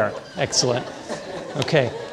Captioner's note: audience laughing